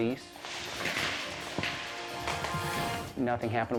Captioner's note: fireworks popping